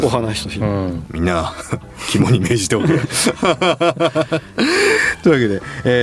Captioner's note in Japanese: 笑い